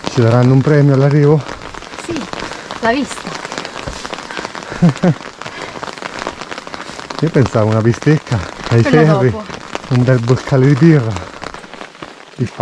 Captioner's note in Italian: Applauso